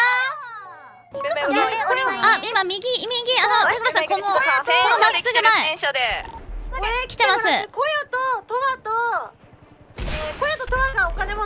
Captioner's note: police helicopter